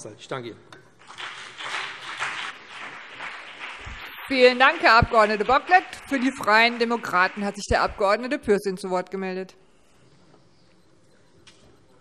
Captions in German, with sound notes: - Ich danke Ihnen. [Beifall BÜNDNIS 90/DIE GRÜNEN und CDU] Vielen Dank, Herr Abg. Bocklet. - Für die Freien Demokraten hat sich der Abg. Pürsün zu Wort gemeldet.